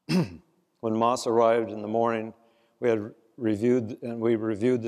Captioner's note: cough